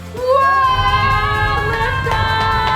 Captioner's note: family yells, applauds